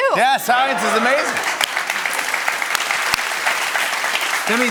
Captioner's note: cheers and applause